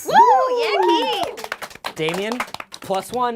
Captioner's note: cheers